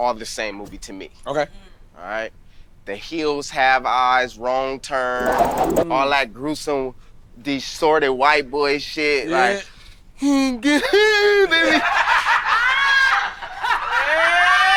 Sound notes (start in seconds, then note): 10.8 groans; 10.8 group laughing